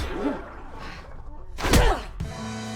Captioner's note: pants, grunts